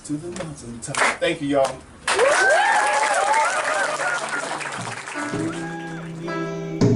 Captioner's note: applause